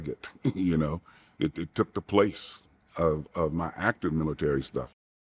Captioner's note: chuckling